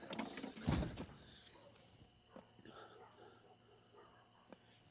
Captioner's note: dogs barking